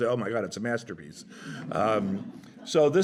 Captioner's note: laughter